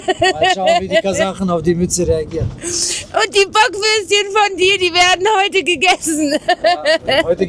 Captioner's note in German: gelächter; gelächter